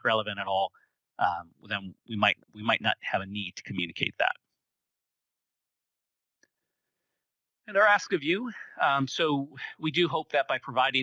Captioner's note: pause